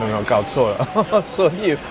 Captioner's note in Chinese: 笑聲